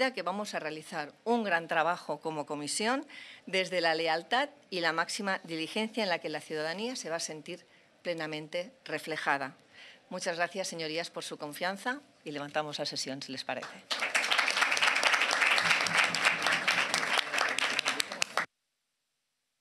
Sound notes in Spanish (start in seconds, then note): 13.6 Aplausos